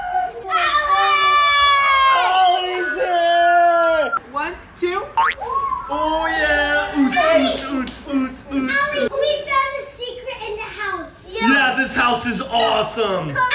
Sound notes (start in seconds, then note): 5.2 spring sound; 5.8 dad mimics dance music